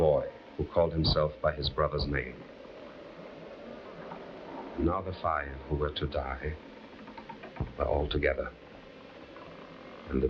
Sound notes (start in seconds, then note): 2.6 bridge creaking; 3.7 breeze rustling; 9.1 bridge creaking